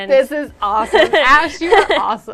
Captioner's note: laughs